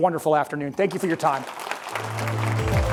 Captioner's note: applause; determined electronic music